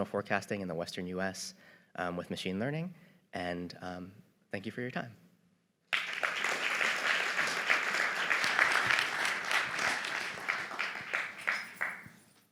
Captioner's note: applause